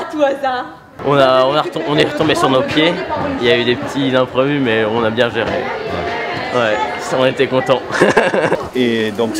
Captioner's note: rires